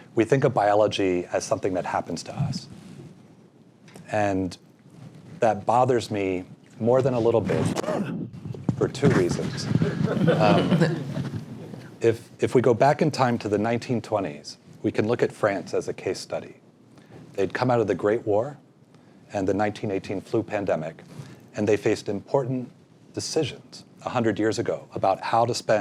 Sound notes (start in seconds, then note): 9.4 laugh